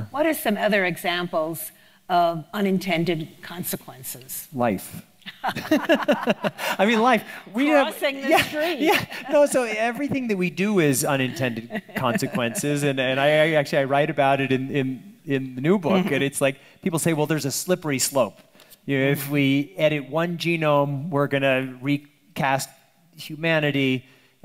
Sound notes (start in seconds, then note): 5.2 laughs